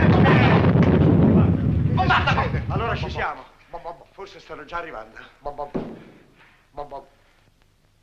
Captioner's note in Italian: ESPLOSIONl